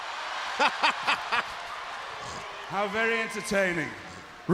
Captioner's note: crowd cheering